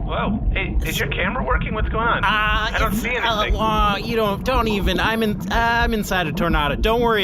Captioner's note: nervous